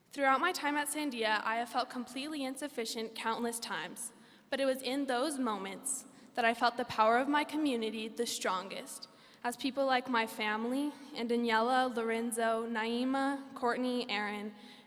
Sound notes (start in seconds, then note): none